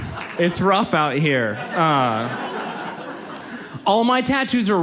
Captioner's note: audience laughs